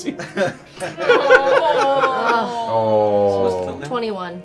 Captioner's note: laughter